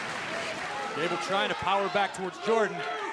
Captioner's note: crowd cheering